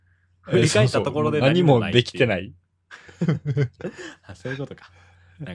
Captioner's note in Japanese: 笑い